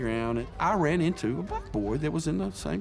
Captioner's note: children calling in background